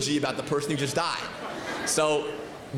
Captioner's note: laughter